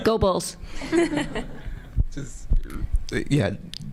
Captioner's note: audience laughing